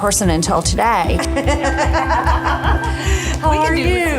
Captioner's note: laughter